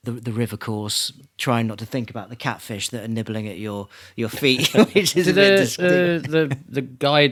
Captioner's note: laughing